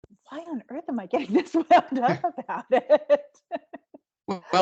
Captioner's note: laughing loudly